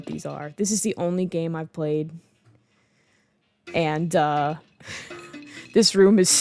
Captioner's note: laughing